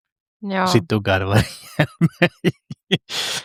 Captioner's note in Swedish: skratt